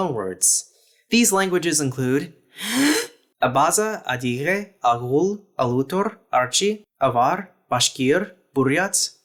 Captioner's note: deep breath